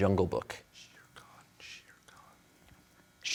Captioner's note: whispering